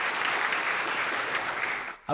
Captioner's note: applause